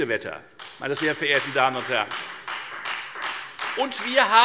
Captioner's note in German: Beifall Freie Demokraten